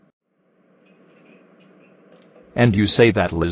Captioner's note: dishes clinking, background chatter